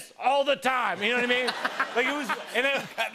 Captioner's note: laughter